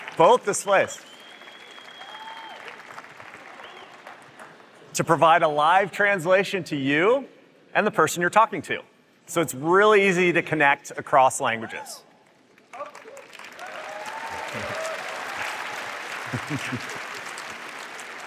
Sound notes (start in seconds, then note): 14.2 applause